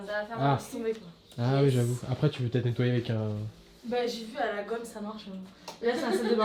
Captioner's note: laughs